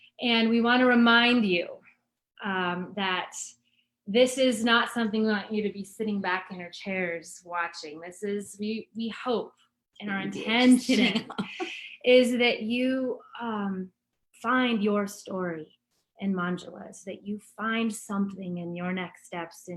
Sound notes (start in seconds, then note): 10.7 laughs